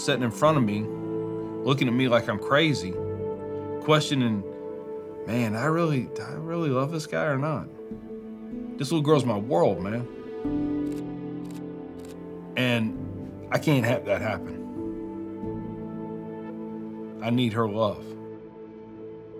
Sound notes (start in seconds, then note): 10.8 picture clicking